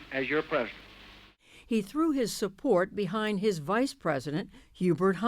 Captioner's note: voice-over